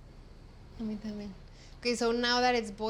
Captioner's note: speaks Spanish